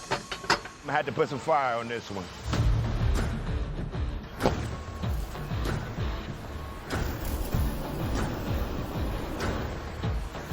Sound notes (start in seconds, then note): 2.3 exciting music; 2.6 fire whooshing